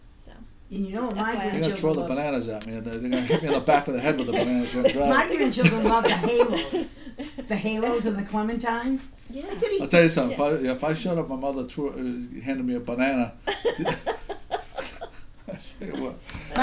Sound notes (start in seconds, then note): 0.3 voiceover; 5.5 voiceover; 9.5 voiceover; 13.7 laughing